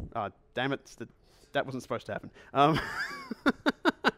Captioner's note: laughs